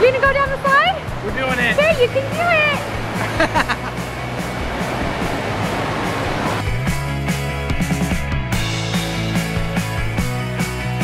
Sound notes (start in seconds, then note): 3.2 laughing